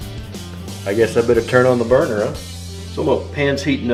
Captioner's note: voiceover